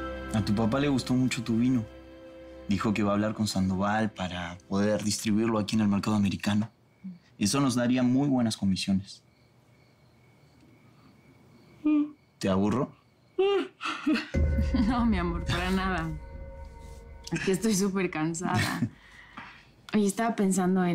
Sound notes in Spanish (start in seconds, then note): 11.8 Sonido al bostezar